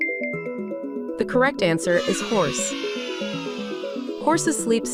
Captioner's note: children cheering